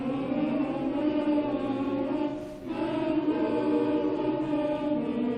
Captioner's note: humming alma mater